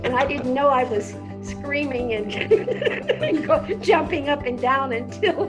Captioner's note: laughs